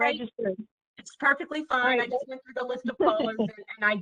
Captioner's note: laughter